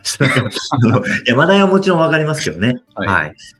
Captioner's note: laughs